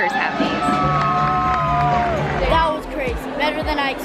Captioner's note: audience cheering